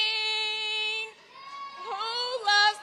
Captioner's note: students cheering